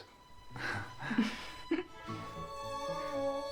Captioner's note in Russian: смех